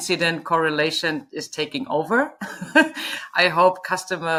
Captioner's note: laughing